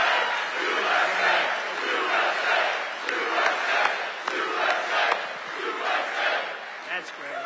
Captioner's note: audience chants "USA"